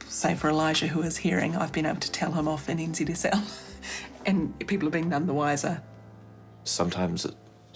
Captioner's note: chuckles